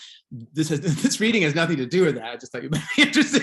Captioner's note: laughs